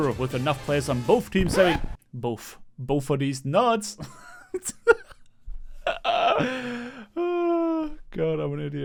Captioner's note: starts laughing at his own joke